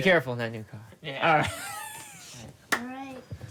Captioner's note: laughing